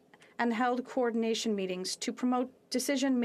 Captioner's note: speaking French